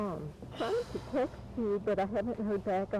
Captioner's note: sighing